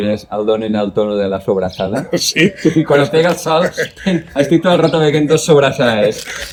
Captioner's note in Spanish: risas